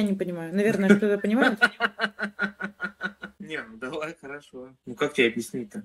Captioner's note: idiotic laugh